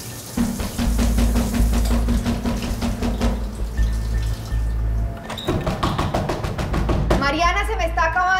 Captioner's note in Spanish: Continúan los toques en la puerta